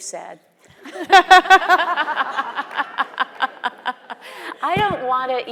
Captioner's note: both laughing; audience laughing